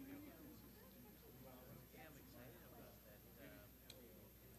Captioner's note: chattering